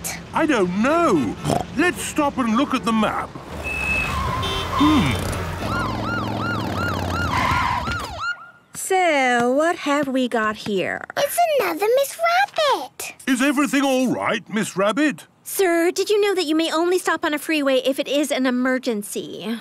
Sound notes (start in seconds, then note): 3.5 honking, sirens